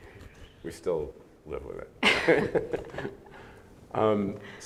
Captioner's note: laughs